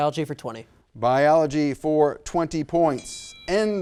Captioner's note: bell rings